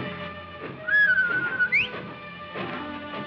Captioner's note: whistling